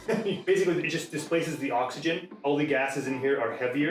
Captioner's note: laughing